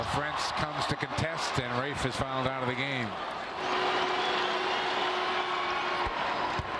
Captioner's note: whistle